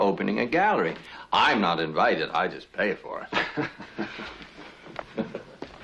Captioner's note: laugh